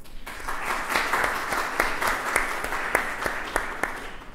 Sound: applause

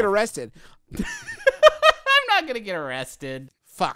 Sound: laughs

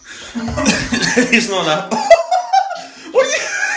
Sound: laughs

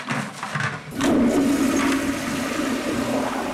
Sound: toilet flushes

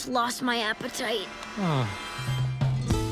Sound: gagging; sighs

